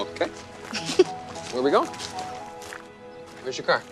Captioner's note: Jordan laughs